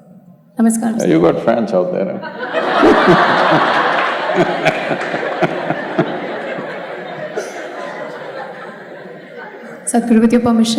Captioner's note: laughter